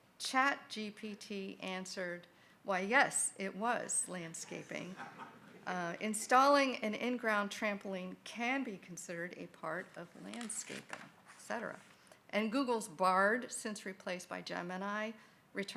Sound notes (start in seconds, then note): 4.5 group laughing